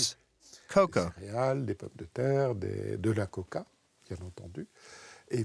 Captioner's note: French spoken audio